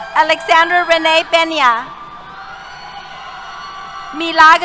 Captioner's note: cheers